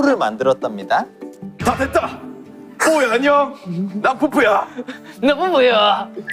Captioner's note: manly voice